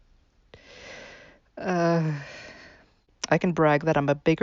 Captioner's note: sigh